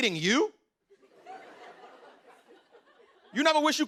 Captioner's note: laughter